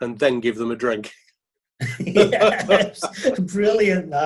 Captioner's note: laughing